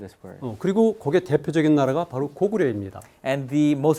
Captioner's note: speaking in Korean